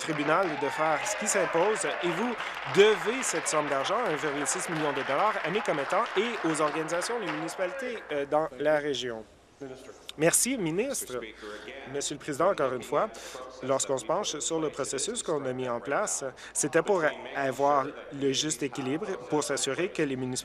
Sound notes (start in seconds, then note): 5.4 applause